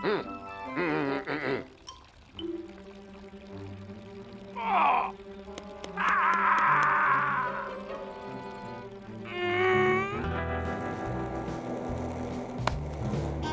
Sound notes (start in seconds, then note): 4.5 grunts; 5.8 groans